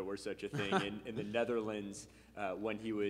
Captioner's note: laughing